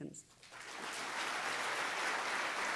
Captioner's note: crowd Clapping